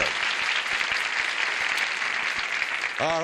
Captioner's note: applause